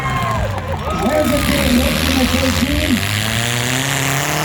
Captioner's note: cars hit; crowd cheers; engines rev